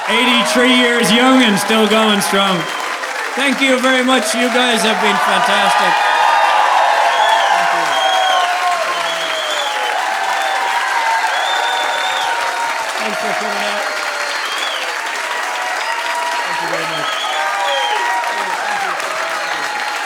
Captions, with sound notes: 83 years young and still going strong. Thank you very much. You guys have been fantastic. (audience applauding) (audience cheering) Thanks for coming out. (audience applauding) (audience cheering)